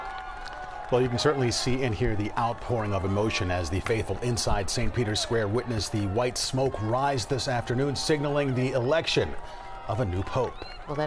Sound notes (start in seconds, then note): 3.9 cheers